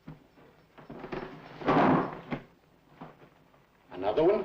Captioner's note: body thuds